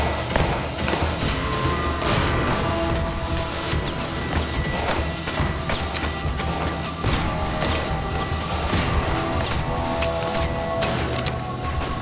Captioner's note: gunshots; gunshots continued; gun clicking, reloading